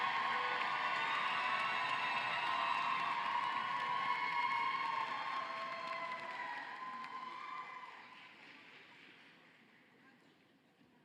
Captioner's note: cheering and applause